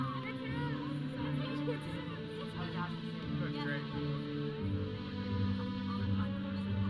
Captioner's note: audience chattering; processional music